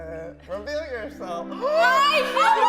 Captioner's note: gasps